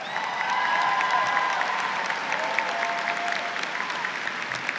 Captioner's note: audience cheers